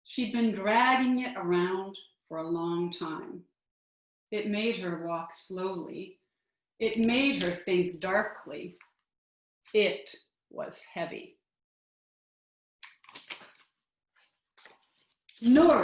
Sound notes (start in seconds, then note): 12.1 rustling